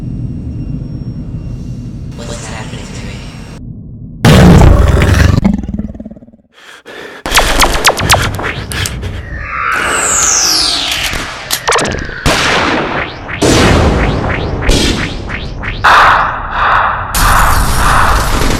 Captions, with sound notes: What's happening to me? (alien loudly growling) (deep breathing) (lasers firing) (loud banging)